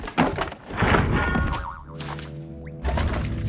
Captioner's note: boink!; ominous music plays